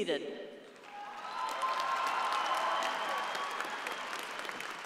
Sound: audience applauding

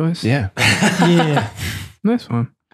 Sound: Fr. Angelus laughs

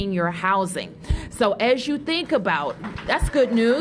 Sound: applause

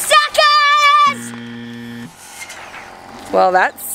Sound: buzzer

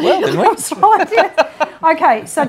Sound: both laughing

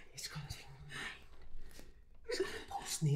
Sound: whispering

